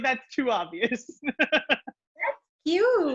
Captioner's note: laughs